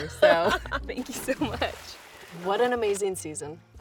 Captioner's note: laughs